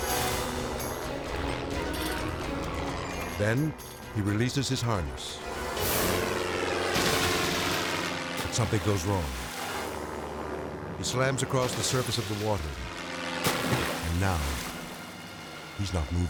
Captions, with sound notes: (high-spirited music) Then he releases his harness. (water splashing) Something goes wrong. He slams across the surface of the water. And now, he's not moving.